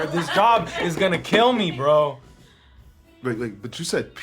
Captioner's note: hands tapping